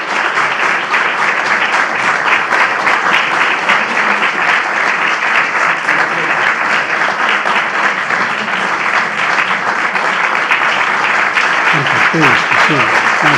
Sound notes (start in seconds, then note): 0.0 applause